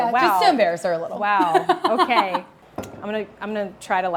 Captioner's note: Maxxine laughs